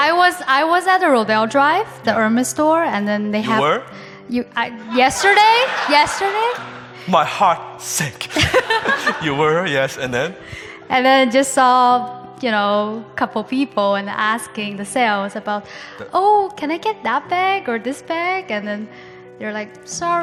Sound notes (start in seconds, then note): 4.8 audience laughing; 8.2 laughs